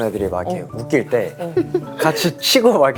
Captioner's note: laughing already